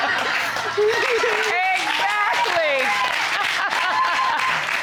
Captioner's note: laughs